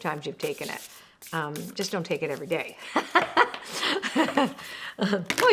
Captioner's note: laughs